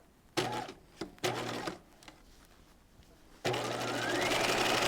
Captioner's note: sewing machine whirs